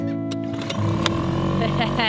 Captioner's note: engine revving; laughing